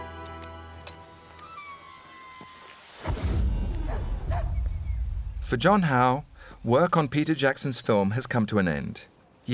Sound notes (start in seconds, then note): 1.3 creak; 4.3 dog barking